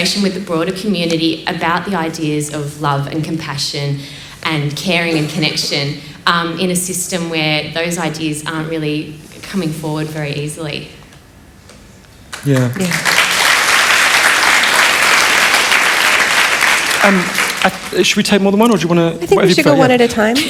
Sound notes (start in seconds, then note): 12.3 applause